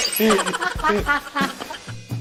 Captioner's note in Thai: หัวเราะ